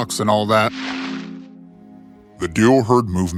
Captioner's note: brush rustling